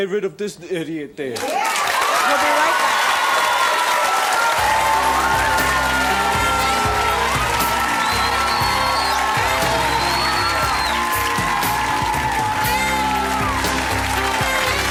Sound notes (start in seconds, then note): 2.8 applause; 7.7 cheers and applause